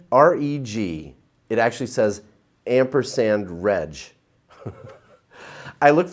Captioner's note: chuckles